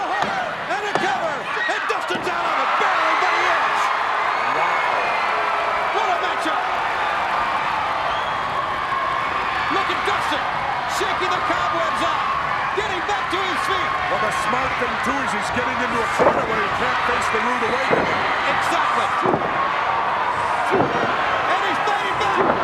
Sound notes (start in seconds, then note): 6.8 applause; 19.3 applause